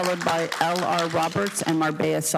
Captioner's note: applause